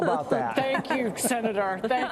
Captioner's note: laughter